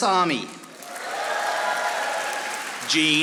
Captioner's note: audience applauding